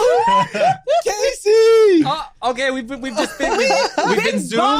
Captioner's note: group laughs loudly